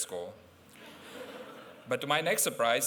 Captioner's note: laughter